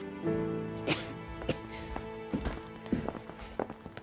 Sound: coughing

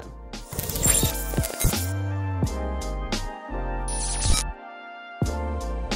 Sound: mellow music; electronic beeping

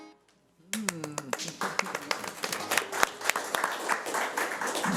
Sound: audience applauding

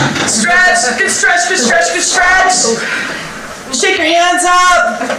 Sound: audience laughter

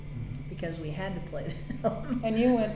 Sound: laughs

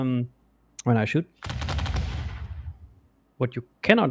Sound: volley of booming sounds

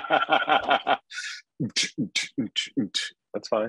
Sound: laughing

